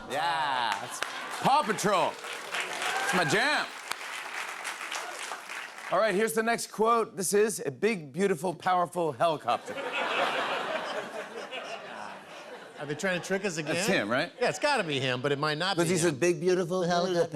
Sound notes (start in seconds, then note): 4.4 applause; 9.5 laughter